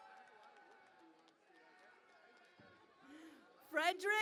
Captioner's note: cheering and Applause